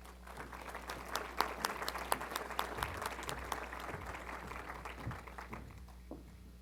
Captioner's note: applause